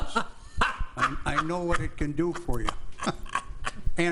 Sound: laughter

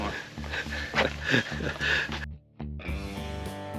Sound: laughing

